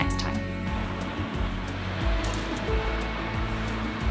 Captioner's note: waves crashing